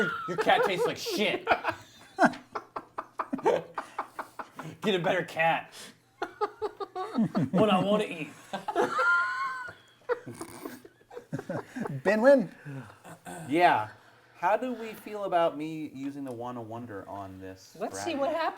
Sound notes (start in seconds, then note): 0.0 laughter; 10.1 laughter and snorting